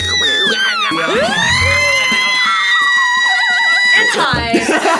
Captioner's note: screams; laughs; otamatone beeps